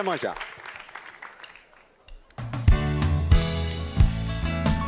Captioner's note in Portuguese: aplausos